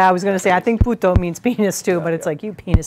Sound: speaking a foreign language

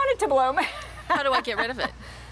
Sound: laughing

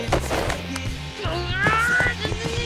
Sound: grumbling

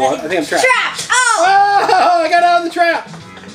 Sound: exclaims

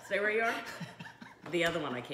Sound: laughing

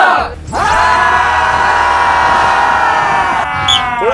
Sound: shouting for motivation

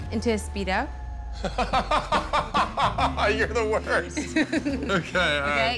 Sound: laughs

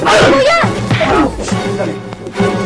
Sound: Taldo grunting

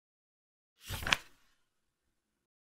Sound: page flip sound

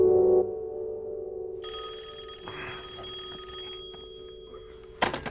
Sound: phone rings

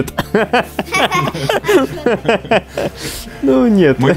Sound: laughing

